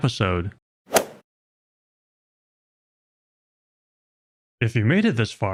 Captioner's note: golf ball hit sound effect